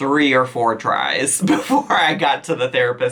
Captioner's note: chuckles